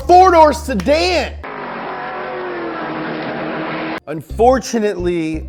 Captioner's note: engine revving